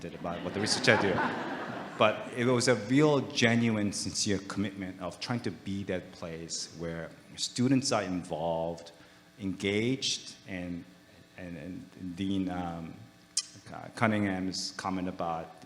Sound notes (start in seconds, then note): 0.1 audience laughing